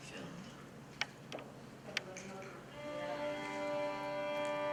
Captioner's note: snapping; violin music